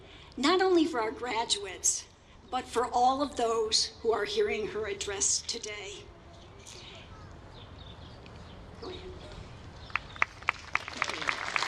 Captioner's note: applause